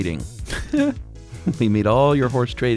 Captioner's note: laughs